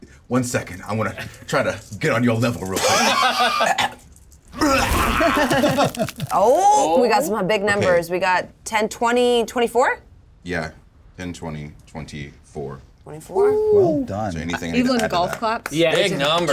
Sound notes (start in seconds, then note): 4.6 grunts; 14.8 clap